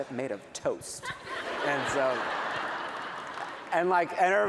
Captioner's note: laughter